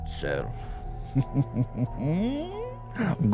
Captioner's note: giggles